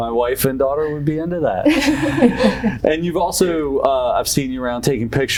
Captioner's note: laughs